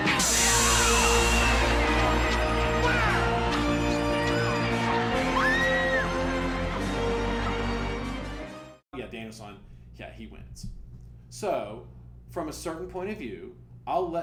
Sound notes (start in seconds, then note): 0.1 cheering and shouting